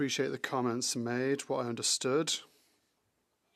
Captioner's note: speaking French